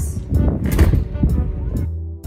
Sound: door slams

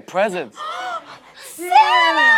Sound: gasp

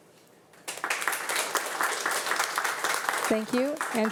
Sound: audience applauding

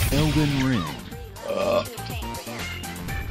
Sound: burp

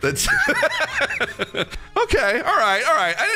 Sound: laughs

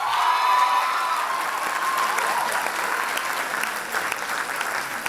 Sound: loud applause and cheers

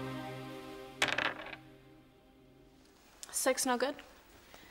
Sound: dice clattering

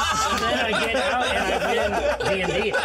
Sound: laughs

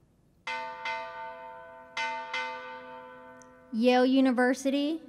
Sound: bell clanging

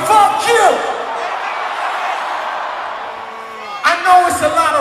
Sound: audience Cheering Intensifies

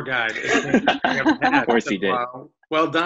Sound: laughs

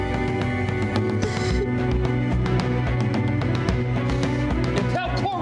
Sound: weeps

